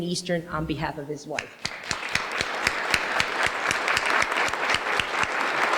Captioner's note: applause